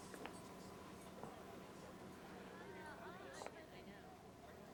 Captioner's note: crowd chatting